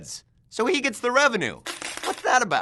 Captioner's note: coins clinking